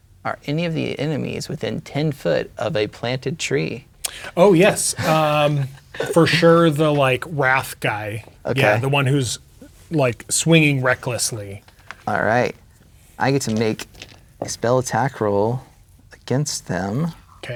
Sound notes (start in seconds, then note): 4.3 players laughing